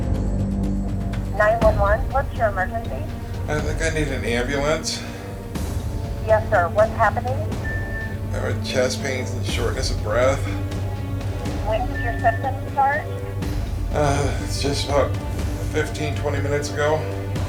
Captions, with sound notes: - [Voiceover] 911, what's your emergency? - I think I need an ambulance. - [Voiceover] Yes sir, what's happening? - I'm having chest pains and shortness of breath. - [Voiceover] When did your symptoms start? - Just about 15, 20 minutes ago.